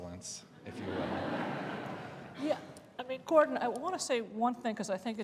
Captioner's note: laughter